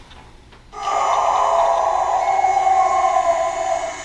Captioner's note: animal howling